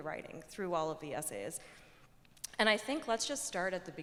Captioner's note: none